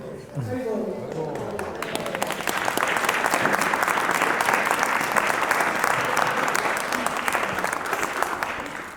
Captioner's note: applause